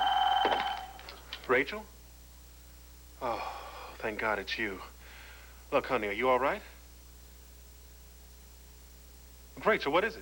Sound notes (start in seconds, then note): 0.0 telephone rings